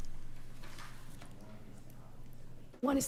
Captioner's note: stammers; speaking quietly